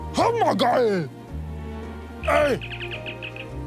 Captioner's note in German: Piepsen